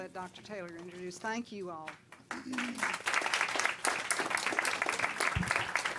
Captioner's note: applause